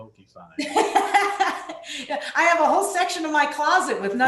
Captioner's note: laughing